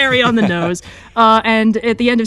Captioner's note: laughs